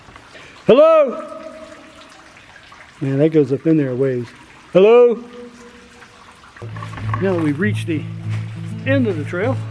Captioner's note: echo